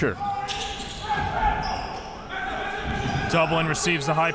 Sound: crowd cheering

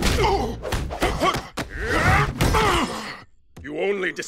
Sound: grunting

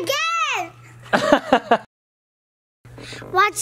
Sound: laughs

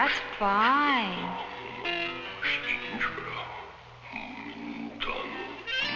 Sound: speaking in a foreign language

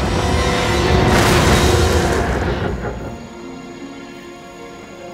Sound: crash

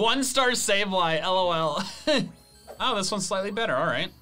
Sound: laughs

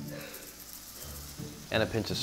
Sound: pepper clattering

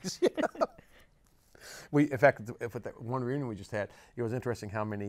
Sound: laughs

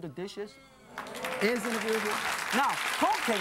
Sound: applause

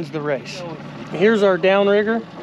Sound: boat engine idling

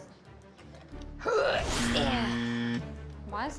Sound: buzzer buzzes

